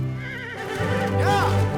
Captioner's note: horse whinnies